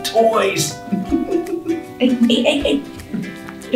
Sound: laughs

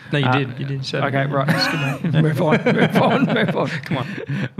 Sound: laughs

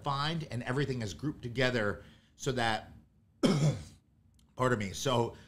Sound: coughs

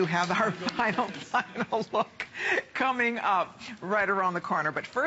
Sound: laughter

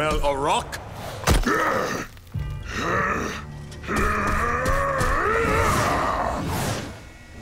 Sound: grunting

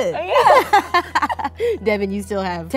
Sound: laughing

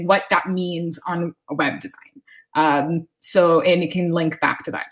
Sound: none

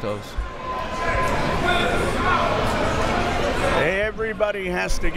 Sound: crowd members shouting

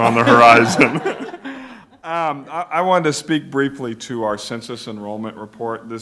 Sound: laughter

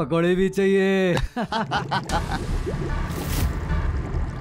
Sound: laughing

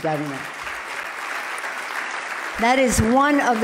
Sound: loud clapping

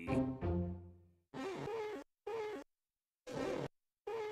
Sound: glass squeaking

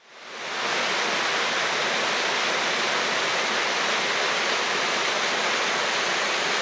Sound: sound of waterfall

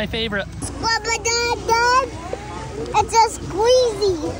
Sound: mumbling

